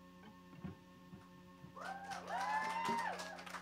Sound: cheering

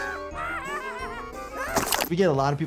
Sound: Nutty laughs hysterically; Nutty chomps

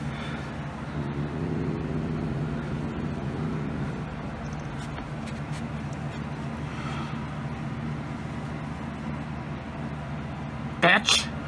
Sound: Caprice growling

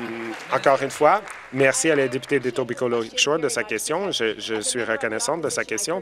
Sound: applause

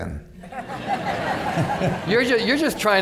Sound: laughter

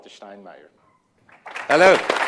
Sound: applause

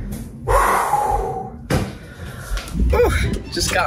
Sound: sighs

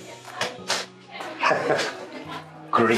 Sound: chuckles

